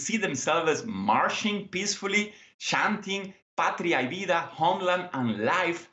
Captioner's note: spanish